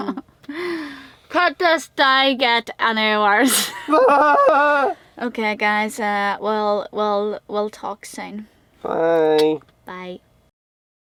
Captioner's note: groans